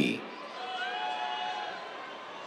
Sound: cheers

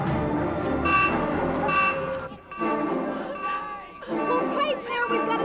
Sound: beeping

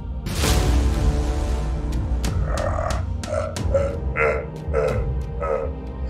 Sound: Mohuru growling and laughing

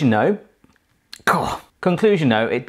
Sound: coughing

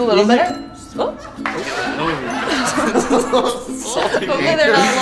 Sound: audience laughing

